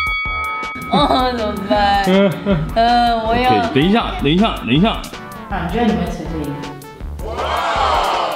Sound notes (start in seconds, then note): 1.6 sobs